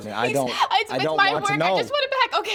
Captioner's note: heavy breathing